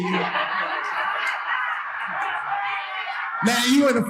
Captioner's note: audience laughing